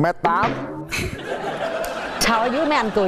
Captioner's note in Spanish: risas